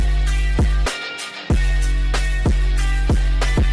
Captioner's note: none